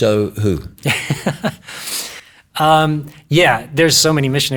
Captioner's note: laughs